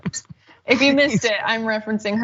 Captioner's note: laugh